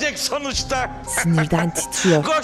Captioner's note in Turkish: Gülme sesi